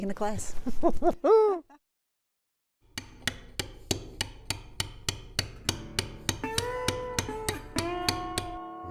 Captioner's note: laughs